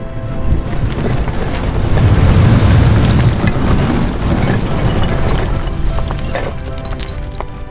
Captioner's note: rocks tumbling